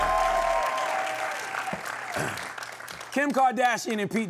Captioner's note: cheering and applause